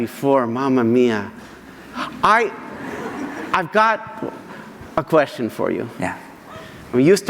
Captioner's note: audience laughter